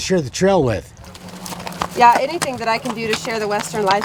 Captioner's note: hooves stomping